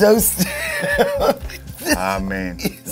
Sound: laughs

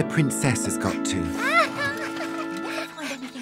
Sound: Princess laughing

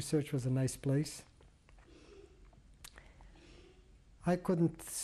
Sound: pauses for 3 seconds

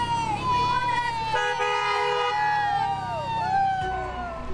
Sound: cheers, car honking

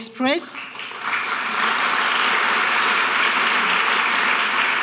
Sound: audience clapping

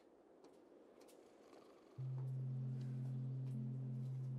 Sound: snoring

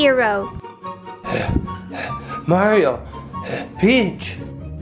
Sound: pant

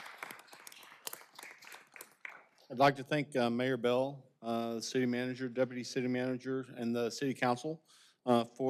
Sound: applause

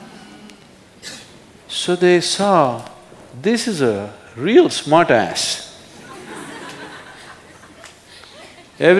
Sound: laughter

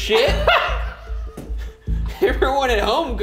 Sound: laughs

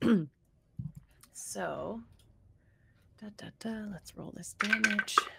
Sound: hums; dice clatter

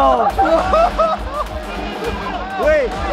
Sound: laughing

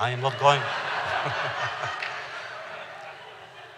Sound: laughter

